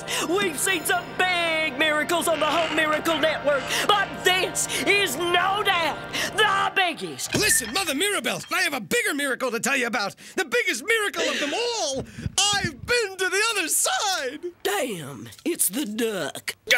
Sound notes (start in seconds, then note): 12.0 gasps